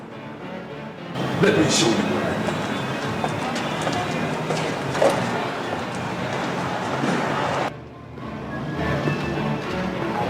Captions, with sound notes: Let me show you the way. [footsteps]